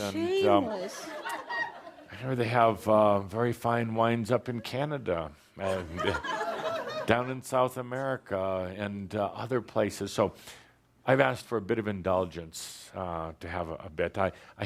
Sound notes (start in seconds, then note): 5.7 laughter